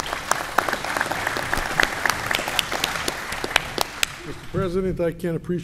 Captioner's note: applause